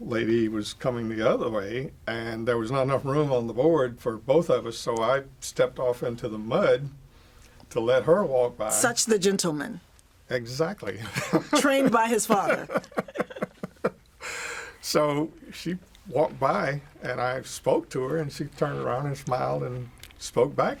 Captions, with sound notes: was not enough room on the board for both of us. So I stepped off into the mud to let her walk by. - Such the gentleman. - Exactly. - Trained by his father. (laughter) - So she walked by and I spoke to her and she turned around and smiled and spoke back to me and I just kinda went, hmm.